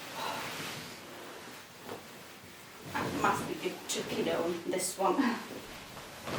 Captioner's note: sighs